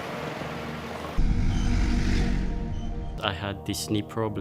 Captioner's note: car honking; truck rumbling